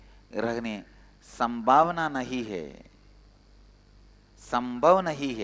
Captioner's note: hindi